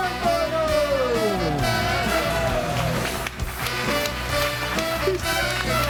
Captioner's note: upbeat music; audience cheers